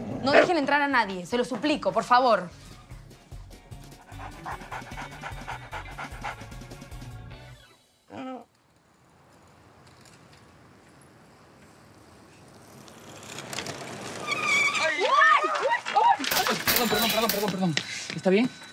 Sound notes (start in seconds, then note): 12.9 street noise